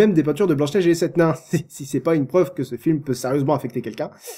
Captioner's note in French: rires